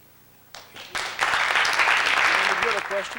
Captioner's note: applause